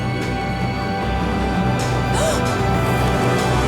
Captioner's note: gasping